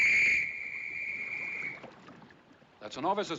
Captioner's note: Assobios